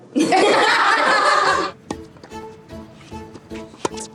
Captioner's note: group laughs